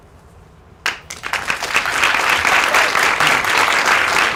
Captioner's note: applause